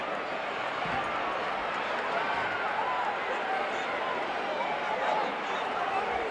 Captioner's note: audience chattering continues